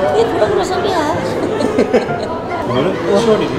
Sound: laughing for not making any sense

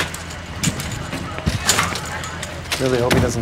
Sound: stretcher banging

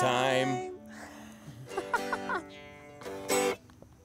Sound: both laughing

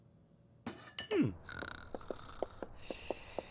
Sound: snoring

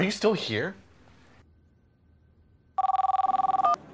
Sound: phone ringing

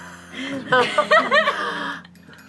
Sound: heavy breathing

